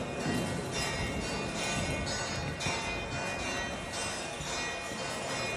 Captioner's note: bells continue to ring